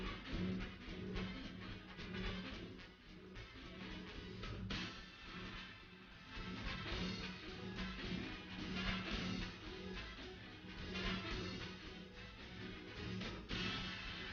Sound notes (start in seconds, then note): none